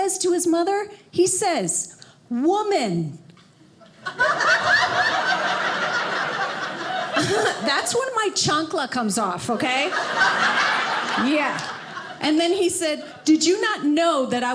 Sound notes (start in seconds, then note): 3.9 audience laughing; 9.6 audience laughing